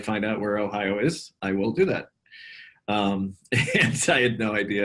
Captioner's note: laughs